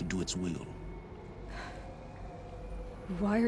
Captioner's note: sigh